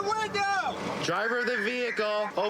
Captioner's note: using loudspeaker